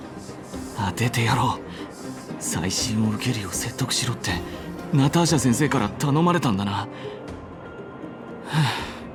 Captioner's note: sigh